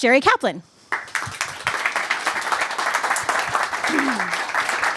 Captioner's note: cheers and applause